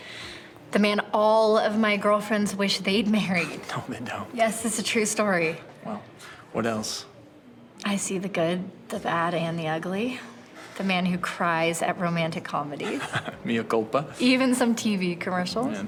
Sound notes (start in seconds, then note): 12.8 Kevin laughs